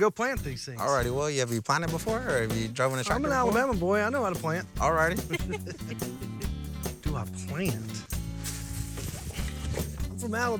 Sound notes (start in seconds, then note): 5.1 giggling